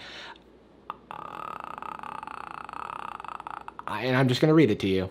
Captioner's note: Jarvis croaking